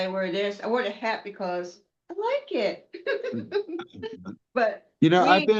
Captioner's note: laughter